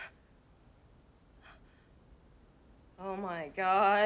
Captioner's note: panting; Kimberly Panting